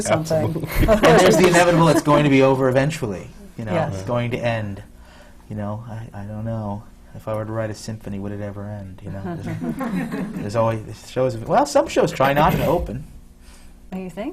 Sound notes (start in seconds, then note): 0.7 laughs; 9.1 laughter